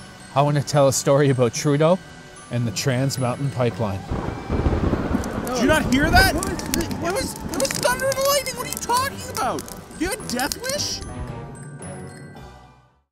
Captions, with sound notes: I want to tell a story about Trudeau and the trans mountain pipeline *Thunder Crack* *bickering* Happy Halloween! from your friends at the Conservative Party!